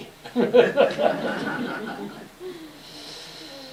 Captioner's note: laughter